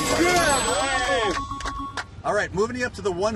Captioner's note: cheering & applauding